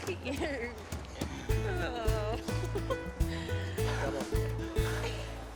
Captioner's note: laughs